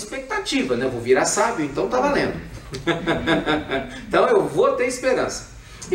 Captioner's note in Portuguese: Risos